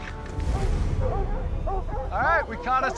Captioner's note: barking